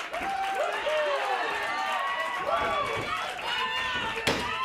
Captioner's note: crowd cheering